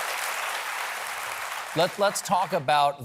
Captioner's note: cheers and applause